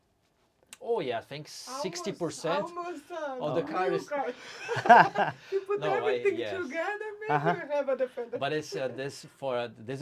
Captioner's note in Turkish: Gülüşmeler